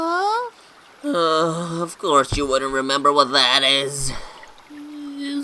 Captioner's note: sighs